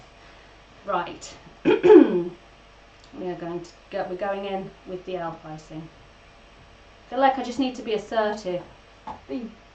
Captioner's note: clears throat